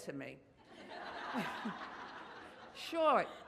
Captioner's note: audience laughs